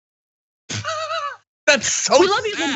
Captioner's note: laugh